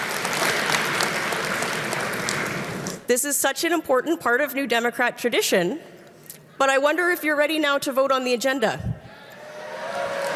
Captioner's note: applause